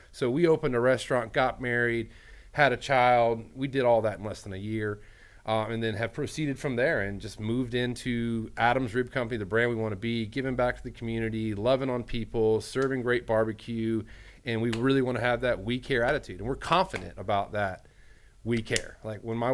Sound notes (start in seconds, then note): none